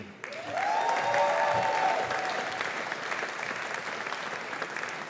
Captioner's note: audience applauding